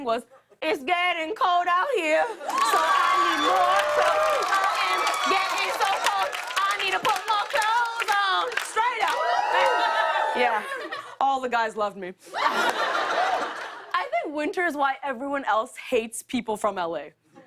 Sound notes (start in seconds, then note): 8.8 cheers and applause; 12.3 laughter